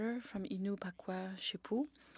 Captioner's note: speaking French